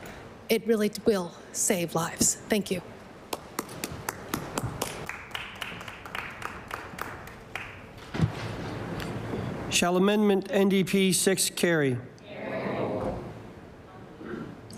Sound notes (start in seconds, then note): 5.9 some Applause